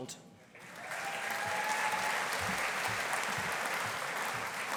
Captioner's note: audience applauding